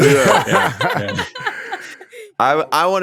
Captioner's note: everyone laughing